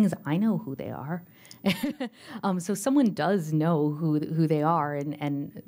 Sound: laughter

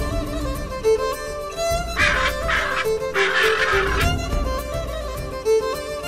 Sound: birds squawking

